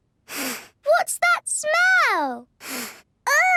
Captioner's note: sniffs; sniffs